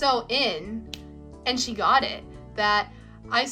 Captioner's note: finger snap